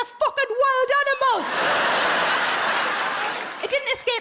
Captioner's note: audience laughing